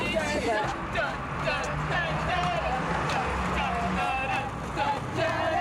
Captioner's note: ♫ group hums ♫